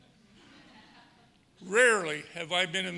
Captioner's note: audience laughing